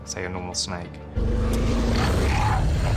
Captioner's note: basilisk growling